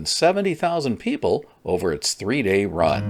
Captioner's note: none